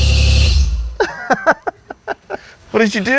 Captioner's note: engine stops; laughs